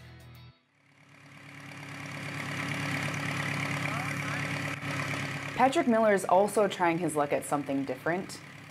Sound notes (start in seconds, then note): 0.7 tractor motoring